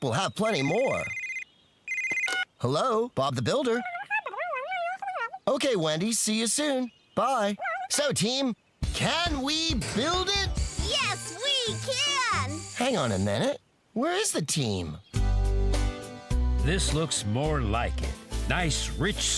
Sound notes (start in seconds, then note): 1.8 phone Rings; 4.1 garbled Phone Voice